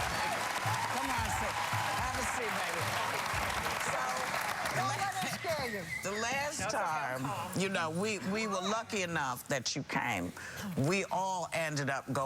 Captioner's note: cheers and applause